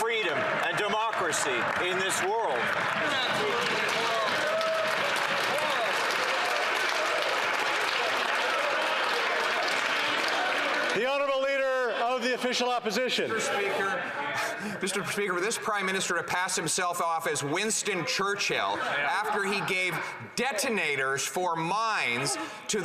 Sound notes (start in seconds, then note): 10.7 some Applause